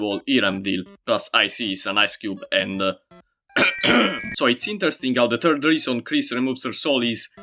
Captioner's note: cough cough